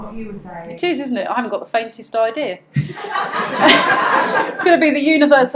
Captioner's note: audience laughs